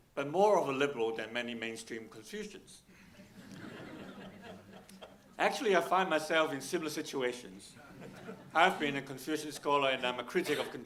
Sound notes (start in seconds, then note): 3.1 audience laughing; 4.1 Sandel laughing